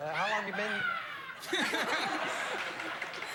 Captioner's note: audience e member shrieks